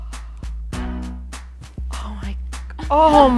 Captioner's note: gasps